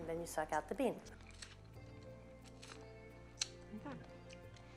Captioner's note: slurping